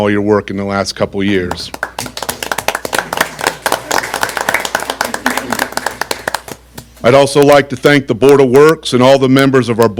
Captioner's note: applause